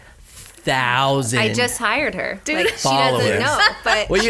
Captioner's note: laughs